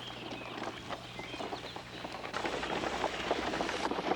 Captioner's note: horses clopping